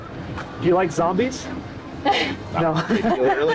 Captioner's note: laughter